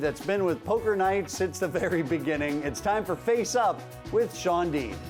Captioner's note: none